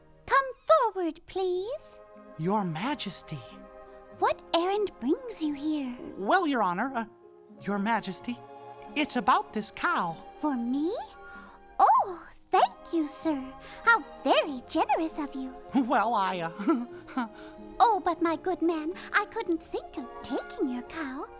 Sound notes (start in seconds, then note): 16.4 giggles